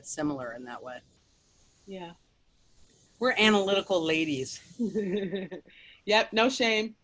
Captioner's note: laughs